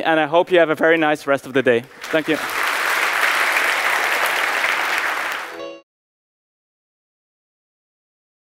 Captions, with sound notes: And I hope you have a very nice rest of the day. Thank you. [APPLAUSE]